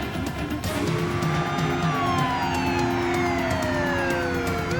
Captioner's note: siren wailing